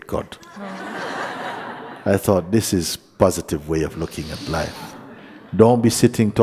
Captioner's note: laughter